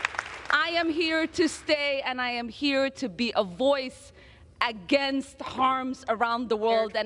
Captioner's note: applause